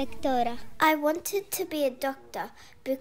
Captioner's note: through translator